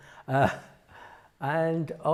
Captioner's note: laughs